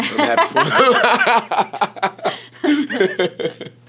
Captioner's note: laughing